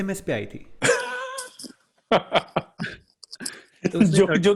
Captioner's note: laughing